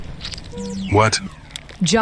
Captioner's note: power generator sputters and stops working